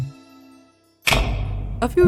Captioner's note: light switches on